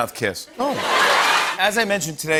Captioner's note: laughter